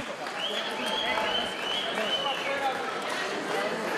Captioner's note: crowd whistling